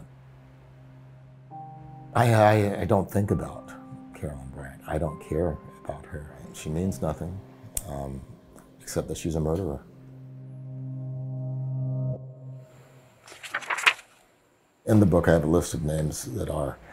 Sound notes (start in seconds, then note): 11.5 page rustling